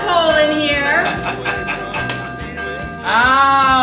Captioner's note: bell ringing; Bradley laughing